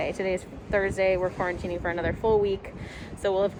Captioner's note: none